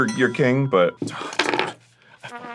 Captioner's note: sighs a little